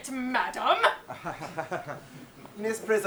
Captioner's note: Jack chuckles